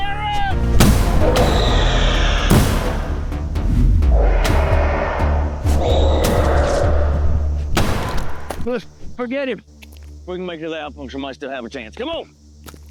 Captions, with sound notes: Hiram! [Gunshots] [Screeching roars] Forget him. If we can make it to the outpost we might still have a chance. Come on!